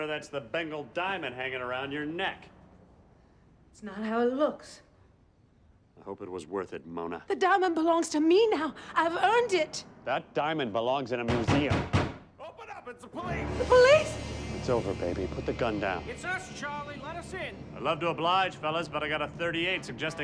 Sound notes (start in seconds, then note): 11.2 knocking